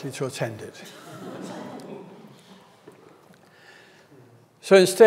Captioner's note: audience laughs